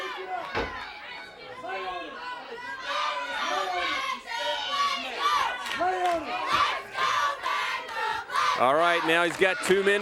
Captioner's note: crowd cheering